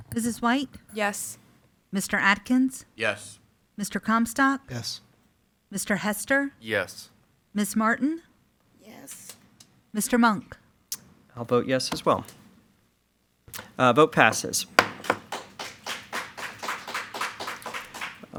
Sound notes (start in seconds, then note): 14.2 gavel pounds; 16.1 attendees applaud